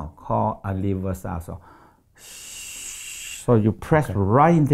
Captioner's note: air blowing through teeth